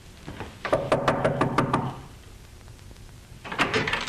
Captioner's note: knocking at door